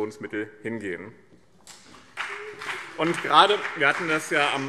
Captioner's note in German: Beifall BÜNDNIS 90/DIE GRÜNEN und CDU